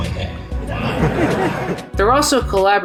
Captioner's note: audience laughs